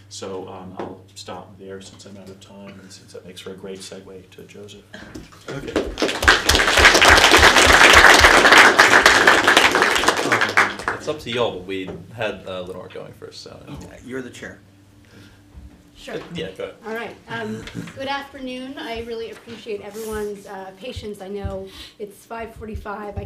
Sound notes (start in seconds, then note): 5.6 applause